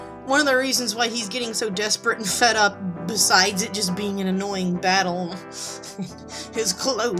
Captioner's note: laughs